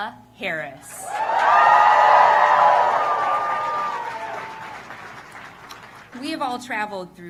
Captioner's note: applause